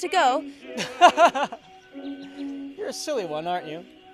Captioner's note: laughter